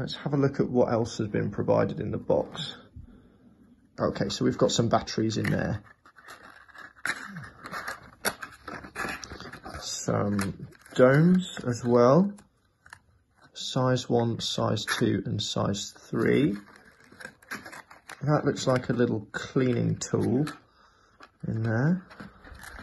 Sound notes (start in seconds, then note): 6.6 cardboard rustling